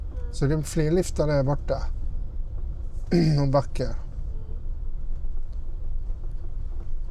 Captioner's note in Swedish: harklar sig